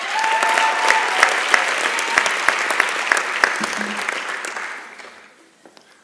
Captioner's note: applause and Cheering